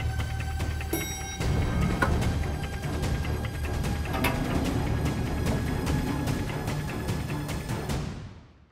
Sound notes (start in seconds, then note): 4.0 elevator closes